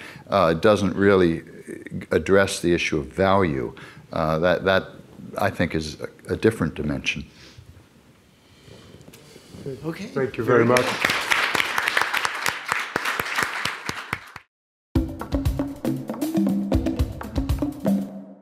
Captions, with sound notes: doesn't really address the issue of value. That, I think, is a different dimension. - Okay. - Thank you very much. (audience applauding) (instrumental fanfare)